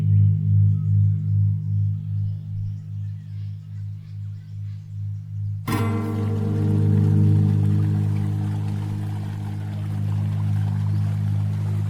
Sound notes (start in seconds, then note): 4.8 dissonant guitar music; 5.7 water running